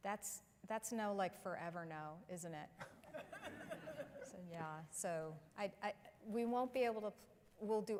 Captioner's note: laughter